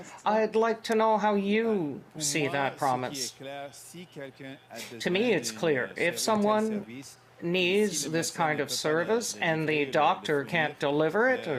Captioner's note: speaking French